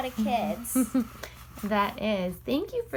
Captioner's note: laughs